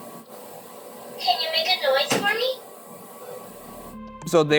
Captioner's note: disembodied bump; disembodied bump